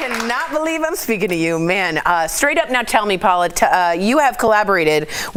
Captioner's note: applause